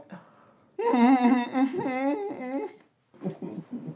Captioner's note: muffled Crying